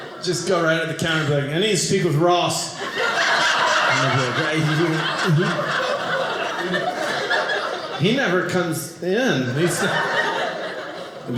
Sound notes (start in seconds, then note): 2.7 audience laughing